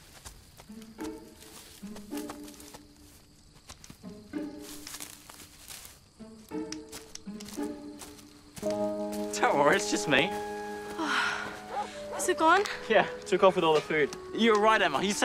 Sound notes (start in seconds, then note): 11.0 sighs in relief